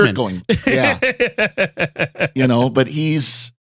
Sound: laughing

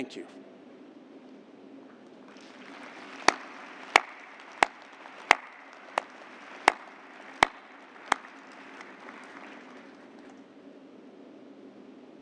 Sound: applause

